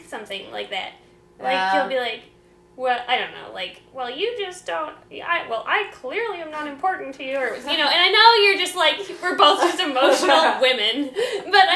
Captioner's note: goofy angry voice